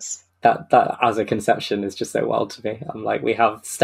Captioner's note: laughing